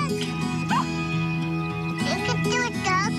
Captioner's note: puppy barks